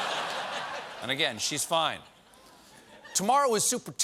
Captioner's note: laughter